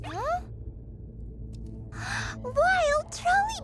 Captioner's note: gasps